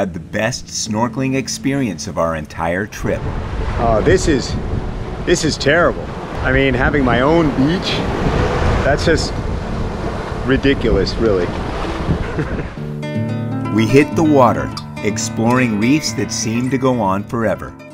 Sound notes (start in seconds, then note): 12.2 laughs